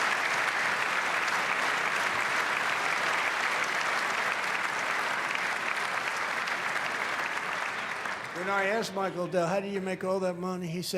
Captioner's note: applause